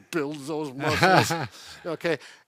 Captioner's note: laughing